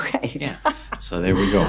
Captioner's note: laughs